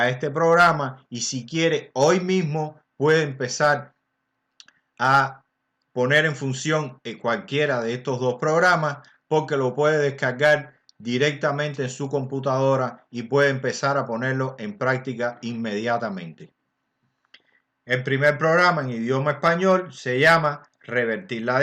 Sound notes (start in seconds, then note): 17.0 in Spanish language